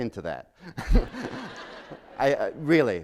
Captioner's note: laughter